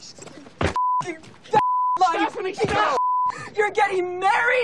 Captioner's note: beeping; beeping